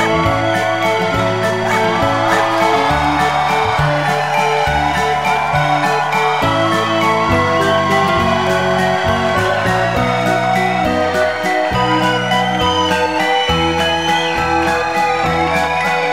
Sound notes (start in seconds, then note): 0.0 clapping, cheering, barking; 2.4 clapping, cheering